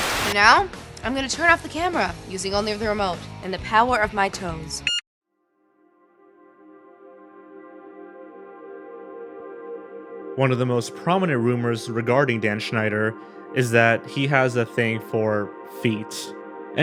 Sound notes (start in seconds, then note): 0.0 static; 4.8 electronic beep